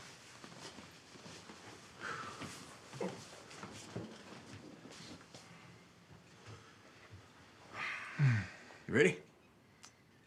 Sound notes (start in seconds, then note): 2.3 Isaac exhales sharply; 7.7 Abe sighs; 8.1 Isaac groans